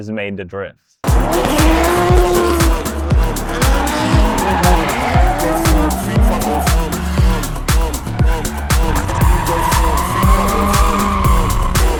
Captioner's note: music and drifting noises